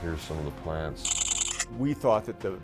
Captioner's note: camera clicking